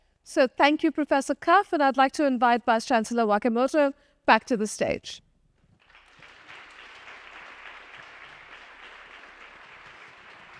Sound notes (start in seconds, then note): 5.8 audience applauding